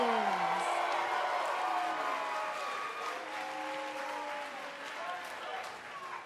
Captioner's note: cheers & applause